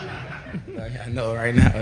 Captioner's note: laughter